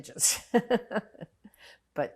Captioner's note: laughing